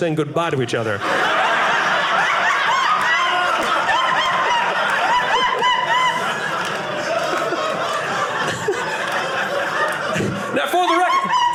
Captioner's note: audience laughing